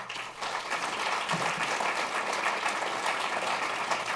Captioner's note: applause